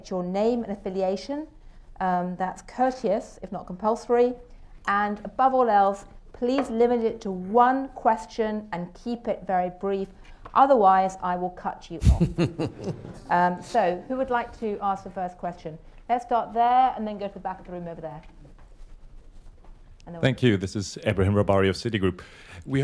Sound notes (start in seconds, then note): 12.0 laughter